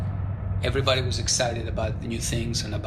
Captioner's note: soundbite of explosion